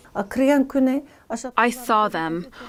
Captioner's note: speaking foreign language